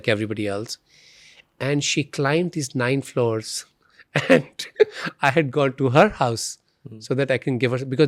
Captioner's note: laughs